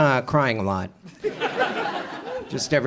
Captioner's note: audience chuckles